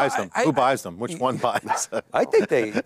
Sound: laughs

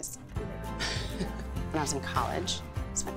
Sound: chuckles

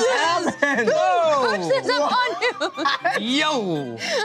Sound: shouting

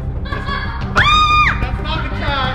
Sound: screaming

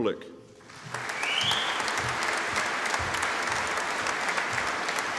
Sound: audience applauding

